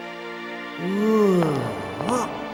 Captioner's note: sighs in awe